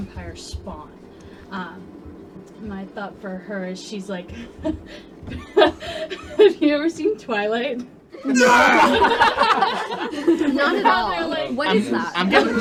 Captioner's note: group laughter and cheering